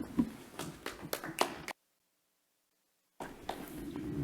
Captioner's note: clapping